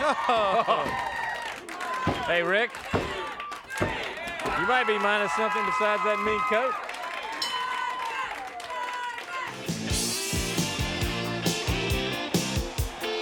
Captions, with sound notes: Oh. Oh. Hey Rick? You might be minus something besides that new coat. (bell dings) Gorgeous, gorgeous. (upbeat music)